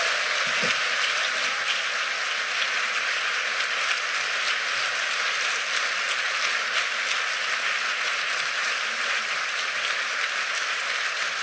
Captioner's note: cheers and applause